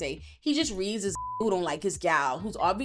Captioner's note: beep